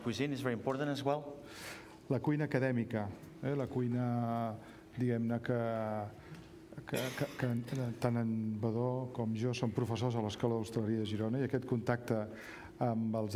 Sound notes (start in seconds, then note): 5.4 speaking catalan